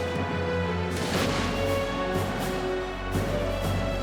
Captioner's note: fireworks explode